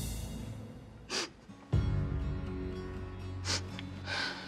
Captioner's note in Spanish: Sollozos